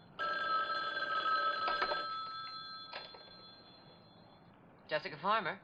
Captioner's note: phone rings